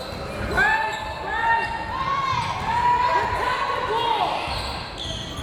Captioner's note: crowd members shouting